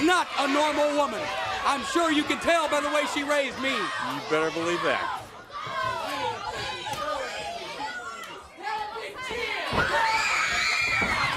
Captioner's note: crowd chatter